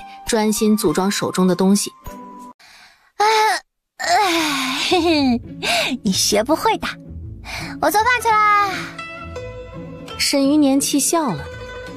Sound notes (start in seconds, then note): 3.1 chuckles